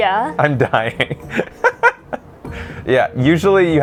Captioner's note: laughs